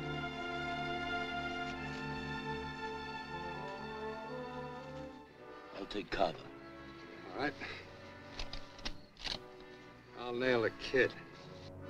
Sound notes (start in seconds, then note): 8.3 cocks rifle